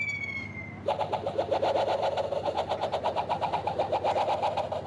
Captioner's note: whipping